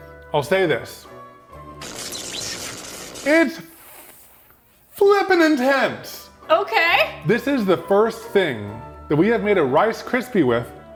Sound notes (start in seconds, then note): 1.8 electricity crackling